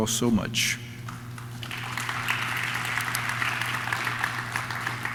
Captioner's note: audience claps